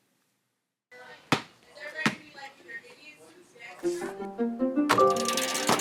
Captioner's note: basketball dribbling; instrumental music